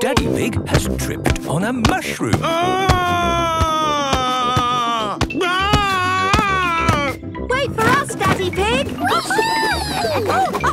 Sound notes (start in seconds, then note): 2.6 shouting